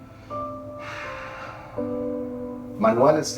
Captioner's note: sighing